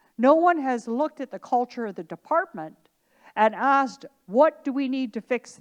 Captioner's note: none